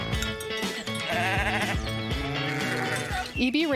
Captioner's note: goats bleating